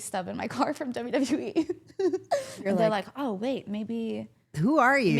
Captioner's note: chuckles